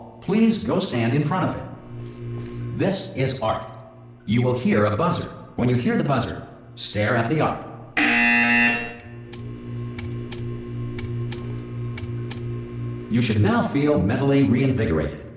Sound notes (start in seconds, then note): 7.8 BZZZZZzzT